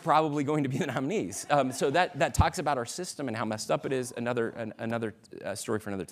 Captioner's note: laughter